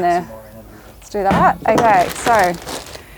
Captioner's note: lid thumps; bag rustling